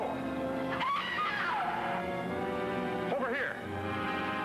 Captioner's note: Joan screams